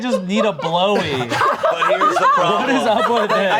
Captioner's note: everyone laughing